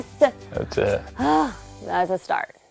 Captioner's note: sigh